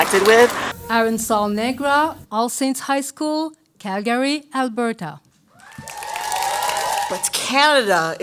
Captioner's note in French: Applaudissements